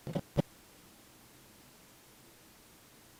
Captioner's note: static flipping